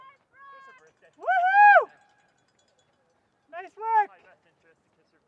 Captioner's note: cheering